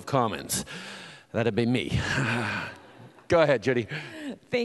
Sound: sighs

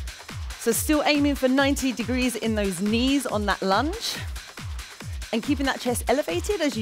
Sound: none

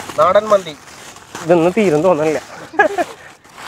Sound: laughing

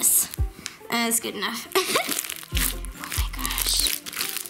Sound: laughs

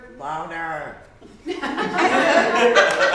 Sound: laughter

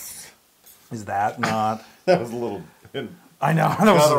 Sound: laugh

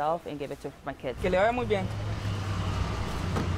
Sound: speaking Spanish

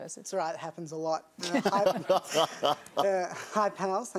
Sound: laughter

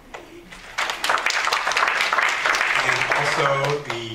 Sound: applause

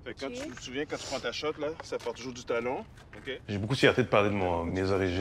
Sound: speaking French

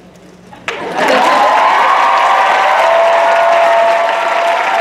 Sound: audience cheering

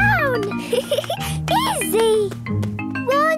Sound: giggling

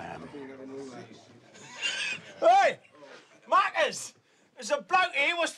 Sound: chuckles

